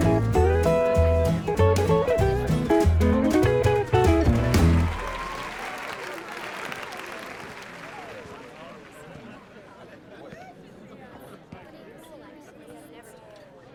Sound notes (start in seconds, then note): 5.0 audience applauding; 5.0 crowd cheering